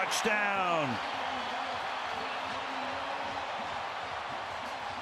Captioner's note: cheers, applause